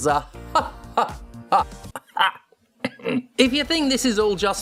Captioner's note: coughs